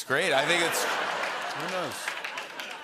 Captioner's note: laughter